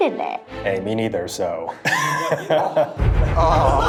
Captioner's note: laughs; dramatic music